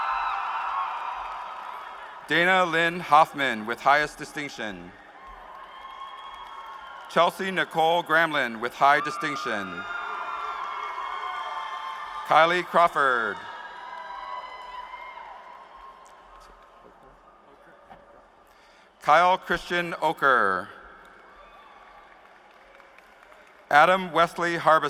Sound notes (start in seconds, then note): 9.5 applause